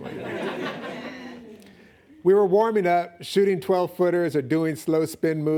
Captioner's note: laughing